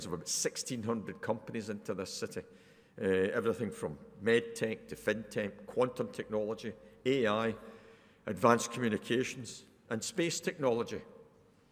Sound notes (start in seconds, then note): none